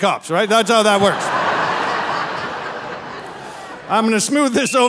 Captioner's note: audience laughing